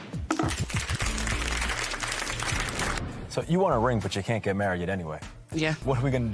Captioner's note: applause